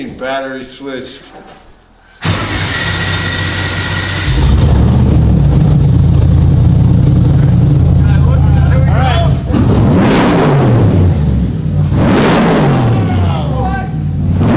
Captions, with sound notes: - What do you mean battery switch? (car engine roars)